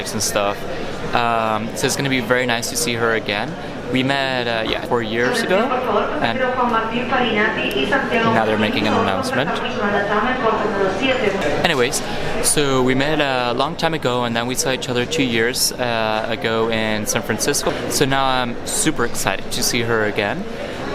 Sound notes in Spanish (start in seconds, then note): 4.8 Anuncio por altavoz del aeropuerto